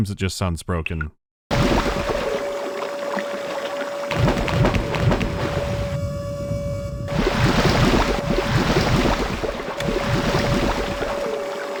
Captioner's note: mechanical whirring and chaotic repetition of submerging\surfacing sound effects